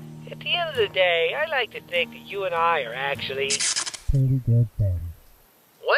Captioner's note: static noise